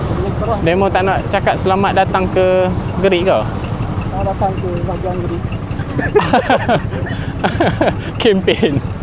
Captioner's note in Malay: ketawa